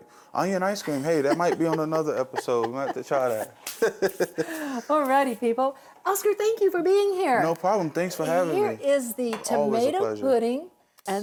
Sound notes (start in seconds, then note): 4.0 people laughing